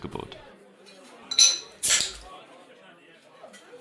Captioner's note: bottle cap pops